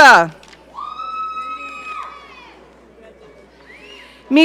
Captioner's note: audience cheering